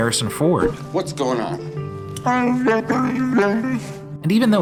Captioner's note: Chewie noises